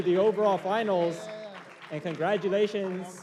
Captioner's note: applause